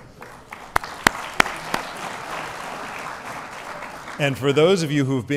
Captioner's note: applause